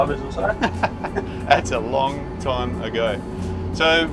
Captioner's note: laughs